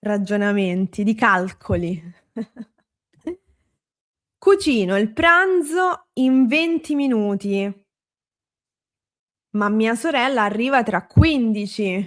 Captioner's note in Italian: risate